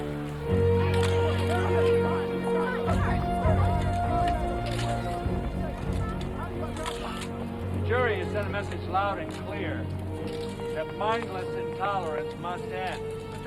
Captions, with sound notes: (cameras clicking) (group clamoring) - The jury has sent a message loud and clear, that mindless intolerance must end.